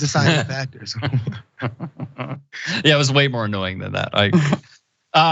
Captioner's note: laugh